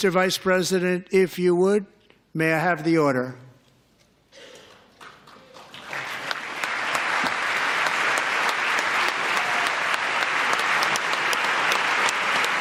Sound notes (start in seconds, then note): 11.5 applause